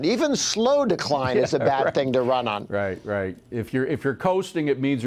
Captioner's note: laughter